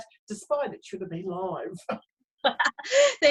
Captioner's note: laughs